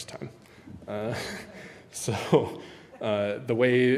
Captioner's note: giggles